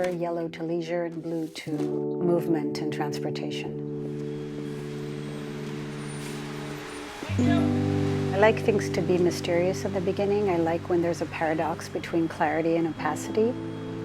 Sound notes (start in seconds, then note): 4.1 mechanical humming in background